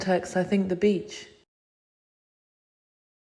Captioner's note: silence